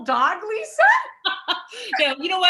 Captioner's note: chuckling